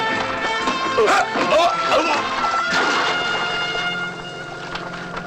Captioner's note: grunting